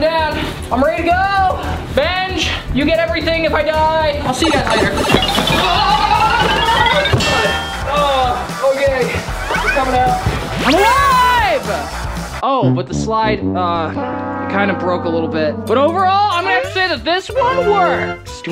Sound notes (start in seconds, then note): 5.3 yelling